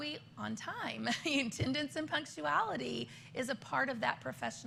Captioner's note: laughter